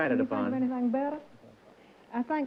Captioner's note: chatter